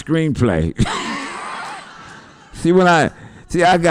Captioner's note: laughter